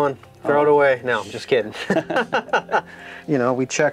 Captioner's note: laughs